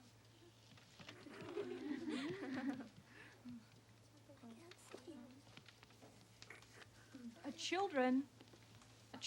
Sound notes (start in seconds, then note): 1.1 kids giggling